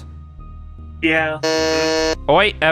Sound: buzzes

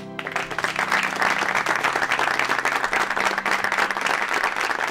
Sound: audience applauding

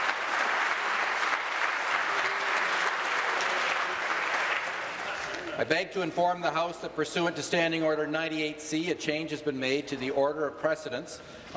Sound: applause

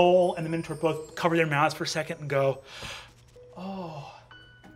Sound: gasping; sighing

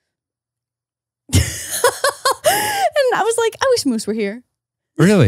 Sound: laughs

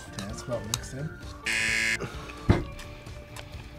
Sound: buzzer

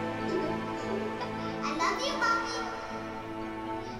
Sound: child's voice

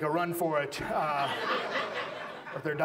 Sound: audience laughs

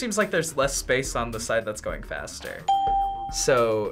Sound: ding

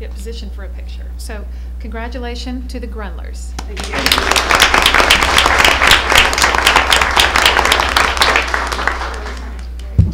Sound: applause

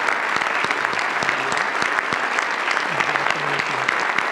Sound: audience applauds

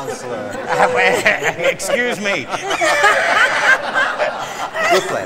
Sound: laughter continues

